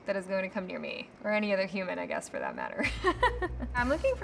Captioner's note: laughs